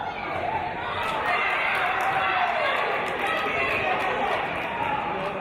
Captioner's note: cheers and applause